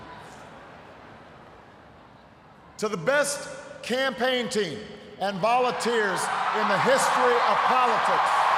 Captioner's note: cheers, applause